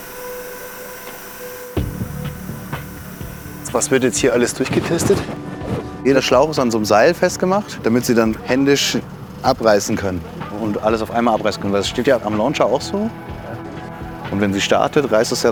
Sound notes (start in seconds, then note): 0.2 gentle music; 4.1 speaks German